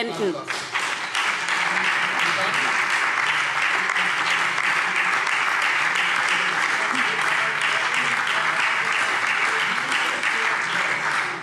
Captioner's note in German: Beifall SPD und BÜNDNIS 90/DIE GRÜNEN